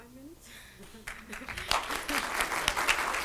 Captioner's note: chuckles; audience applause